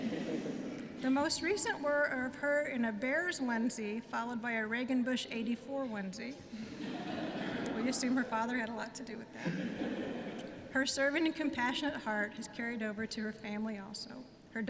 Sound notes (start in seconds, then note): 0.0 laughter; 6.6 laughter